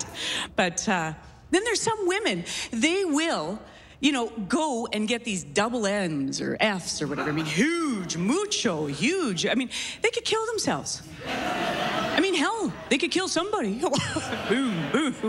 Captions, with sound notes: SOMETHING LIKE THAT. BUT, UH... AND THEN THERE'S SOME WOMEN... THEY WILL, YOU KNOW, GO AND GET THESE DOUBLE NS OR FS OR WHATEVER. I MEAN, HUGE. MUCHO HUGE. I MEAN, THEY COULD KILL THEMSELVES. [LAUGHS] I MEAN, HELL, THEY COULD KILL SOMEBODY.